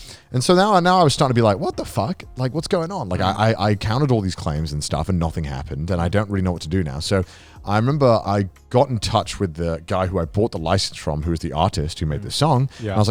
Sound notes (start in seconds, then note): none